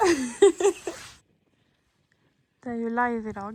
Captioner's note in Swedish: skratt